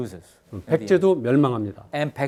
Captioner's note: speaking in Korean